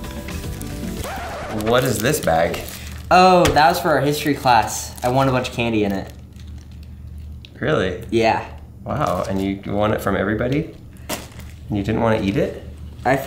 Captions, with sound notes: (record scratches) What is this bag? - Oh, that was for our history class. I won a bunch of candy in it. - Really? - Yeah. - Wow, and you won it from everybody and you didn't want to eat it?